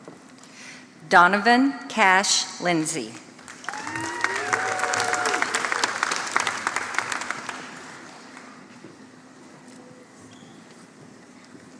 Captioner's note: applause